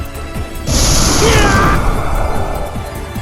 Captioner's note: pained groan